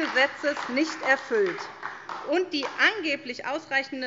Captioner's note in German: Beifall SPD